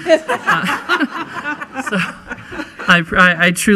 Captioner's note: laughing